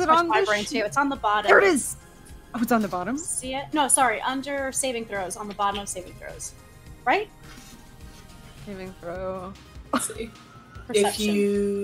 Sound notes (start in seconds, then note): 9.0 quietly